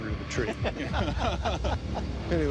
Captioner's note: laughter